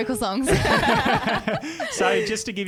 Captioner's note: laughing together